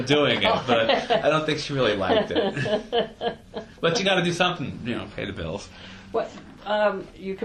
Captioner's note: laughs